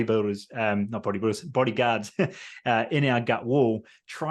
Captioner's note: laughs